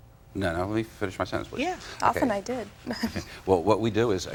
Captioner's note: chuckling